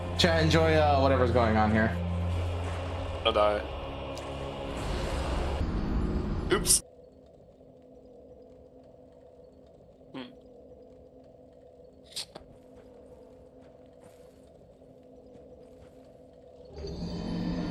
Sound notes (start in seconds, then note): 12.1 sniffles